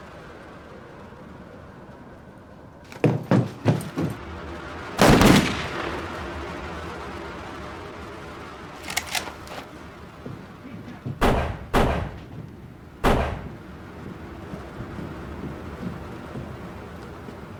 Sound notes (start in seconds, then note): 5.0 gunshot